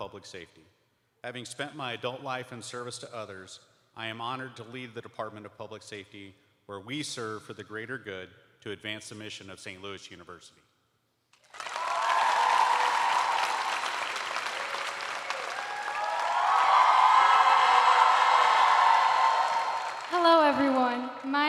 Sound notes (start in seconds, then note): 6.3 cheers and applause